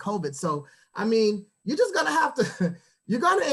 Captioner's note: chuckles